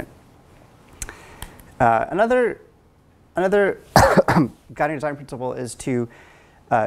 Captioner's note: cough